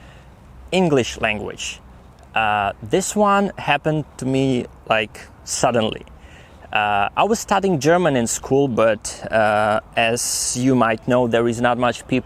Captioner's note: speaking some West Germanic